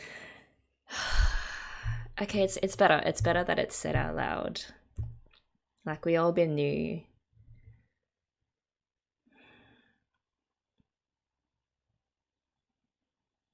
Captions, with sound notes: [sigh] Okay, it's better. It's better that it's said out loud. Like we all been knew.